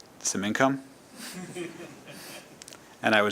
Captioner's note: laughter